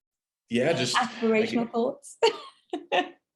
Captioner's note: laughs